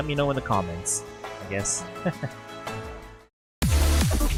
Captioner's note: laughs